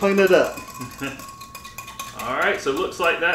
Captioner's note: chuckling